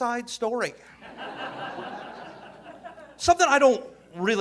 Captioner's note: audience laughing